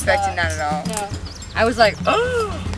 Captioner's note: gasps